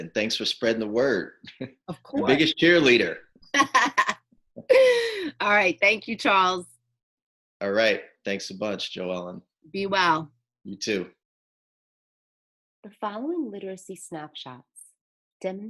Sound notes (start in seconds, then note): 1.4 chuckling; 3.5 laughing